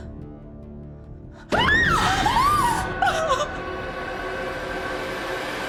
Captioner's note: screams